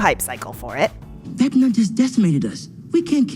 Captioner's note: soundbite of tv show, "stranger things"